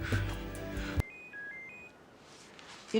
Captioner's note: handy ringing